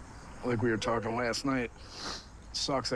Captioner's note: sniffles